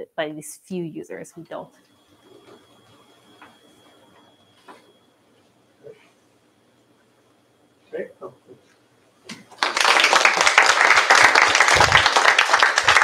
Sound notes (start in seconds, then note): 9.4 applause